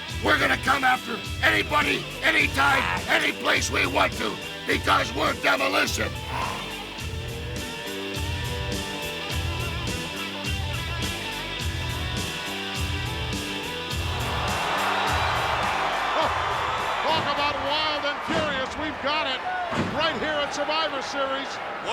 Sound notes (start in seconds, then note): 6.6 upbeat rock music; 13.8 crowd roaring